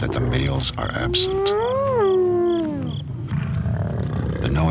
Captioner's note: hyena howls